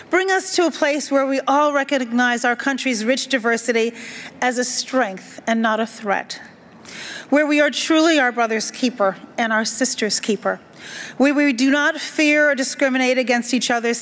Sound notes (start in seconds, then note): none